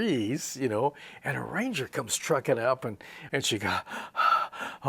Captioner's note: makes huffing sounds